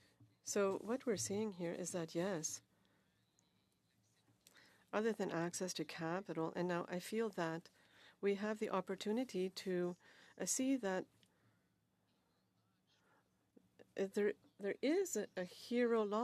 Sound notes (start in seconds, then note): 2.5 speaking French